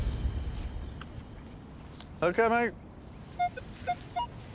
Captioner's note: detector beeping